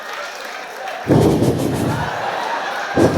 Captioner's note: breathing out noisily